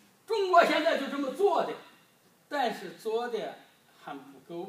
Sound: speaking foreign language

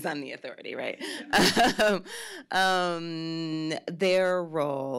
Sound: laughs

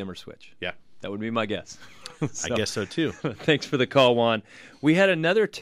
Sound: laughs

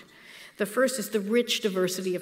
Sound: none

